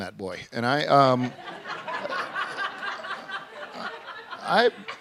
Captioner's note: laughter